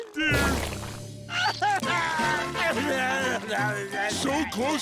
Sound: sobbing

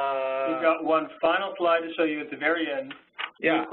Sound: voiceover

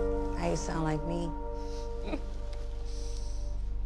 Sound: mom chuckles

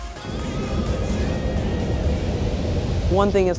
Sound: wind blowing

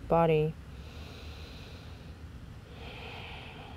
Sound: inhales and exhales deeply

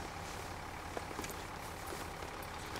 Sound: bag ruffling

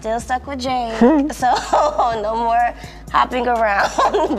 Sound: chuckles; chuckles

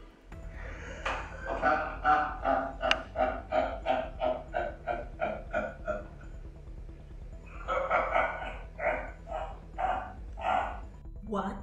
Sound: laughs

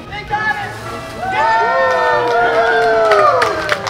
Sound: cheering

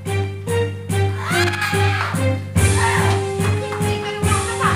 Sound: Lupita grunting

